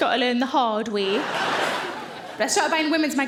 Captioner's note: audience laughing